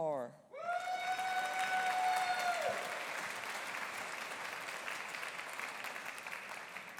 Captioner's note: audience cheering; audience applauding